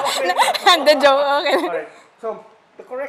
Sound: laughs

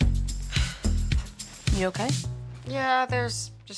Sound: Rooney sighing

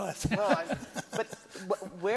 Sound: laughs

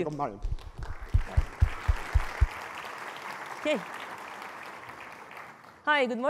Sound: applause

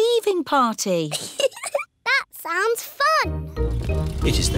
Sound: giggles

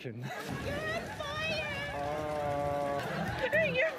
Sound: monotone

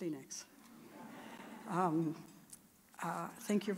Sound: audience chuckling

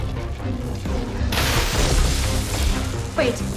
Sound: electricity crackles

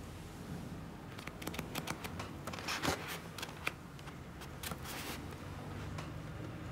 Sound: pages turning

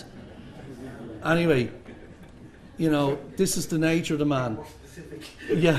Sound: laughter

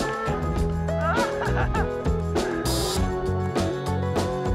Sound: laughing

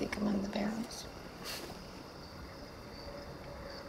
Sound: laughs

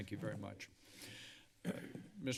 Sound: breathing heavily; clears throat

